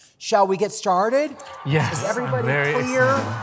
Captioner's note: audience cheering